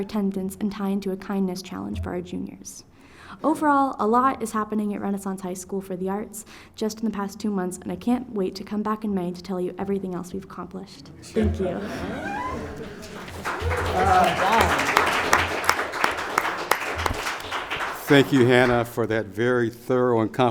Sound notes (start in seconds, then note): 13.0 audience applause